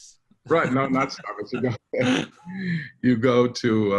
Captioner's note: laughs